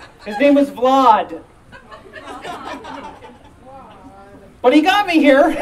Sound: audience Laughing

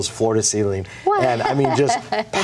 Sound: laughs

